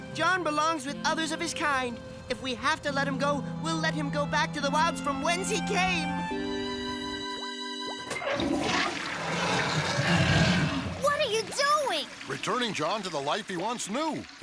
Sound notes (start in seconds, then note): 7.9 flush; 8.4 growling